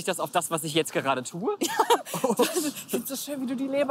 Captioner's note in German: lacht